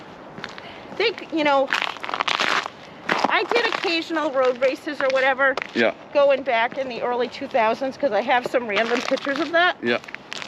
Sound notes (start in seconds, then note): none